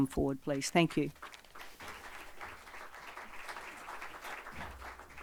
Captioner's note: audience applauding